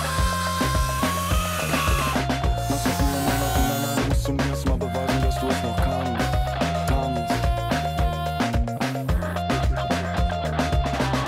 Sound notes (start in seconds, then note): 0.6 Maschinengeräusche; 7.8 Lockere Musik